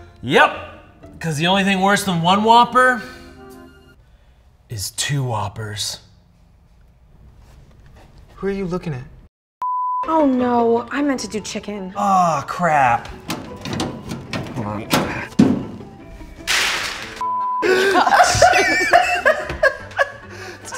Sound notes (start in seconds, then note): 9.7 graphic beeps; 16.3 cries crashing; 16.3 graphic beeps; 17.6 team laughing